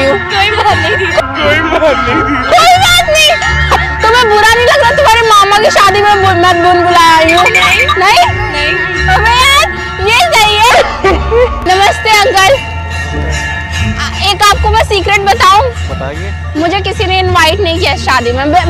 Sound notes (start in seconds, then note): 12.9 bell chimes